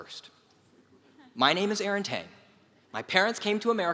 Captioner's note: laugh